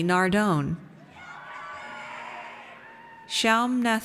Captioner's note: audience cheers